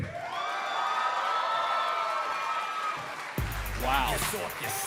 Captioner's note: cheers and applause